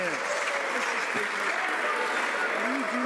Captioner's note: some Applause